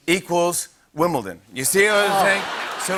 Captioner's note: laughter